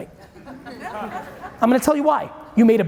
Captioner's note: audience chuckling